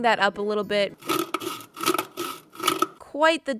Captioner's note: nice sandpaper noise